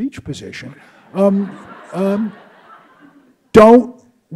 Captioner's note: audience laughs